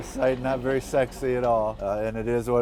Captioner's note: audience chuckling